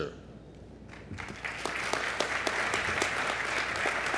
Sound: applause

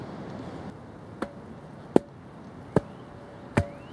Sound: thumping

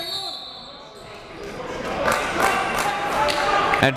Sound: whistle blows; applauding

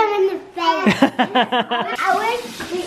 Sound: laughing

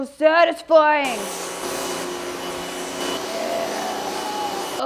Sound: power washer whirs

